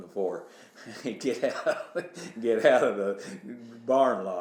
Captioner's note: laughs